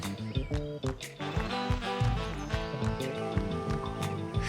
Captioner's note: birds chirping; soft music